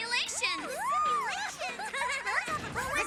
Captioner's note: giggling; all laughing